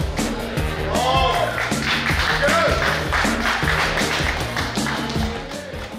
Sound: cheering & Clapping

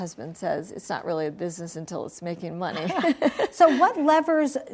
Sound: laughs

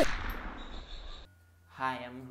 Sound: bullets firing

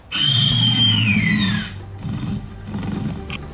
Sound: Raptor squeals; Chasmosaurus growling

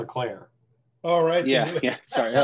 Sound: laughter

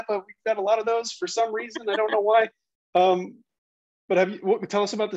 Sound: laughing

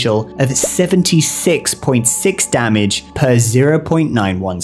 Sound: bubble pops

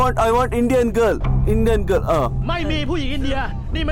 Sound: Malay Language

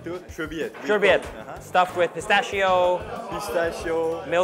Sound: foreign language

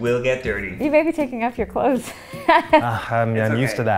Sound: laughs

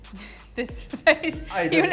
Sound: chuckling

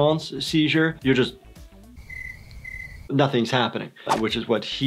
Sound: ringing

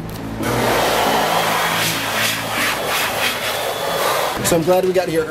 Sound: hand dryer whooshes

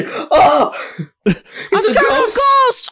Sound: laughs

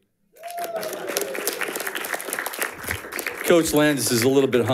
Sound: audience applauding

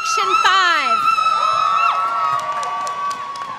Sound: applause

